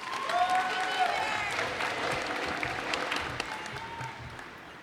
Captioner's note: cheers and applause